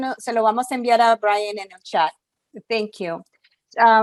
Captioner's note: speaks in foreign language